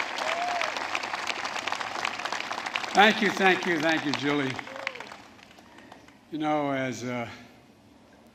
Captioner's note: applause